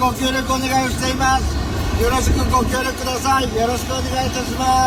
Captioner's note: foreign language